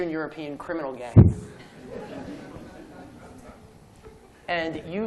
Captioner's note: laughter